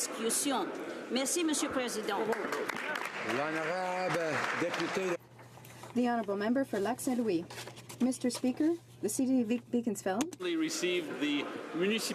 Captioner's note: speaking French